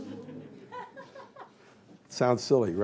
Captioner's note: laughter